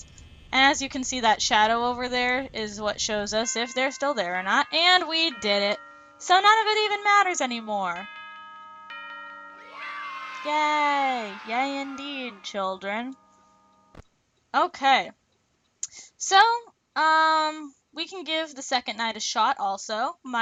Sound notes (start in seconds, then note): 8.2 bells ringing; 9.6 children "yay"-ing